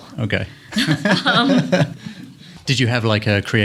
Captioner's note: laughter